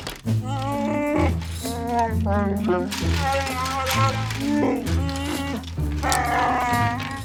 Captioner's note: Chewbacca sounds